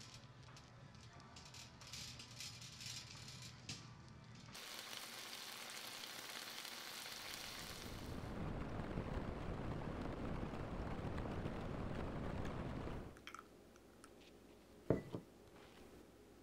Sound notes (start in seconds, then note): 4.5 bacon sizzling; 8.7 deeper sizzling sound